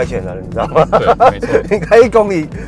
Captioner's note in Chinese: 哈哈哈